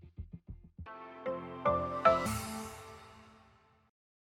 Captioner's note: logo chiming